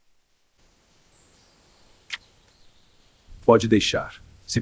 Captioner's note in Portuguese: som de beijo